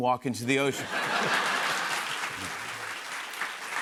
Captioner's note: laughter, applause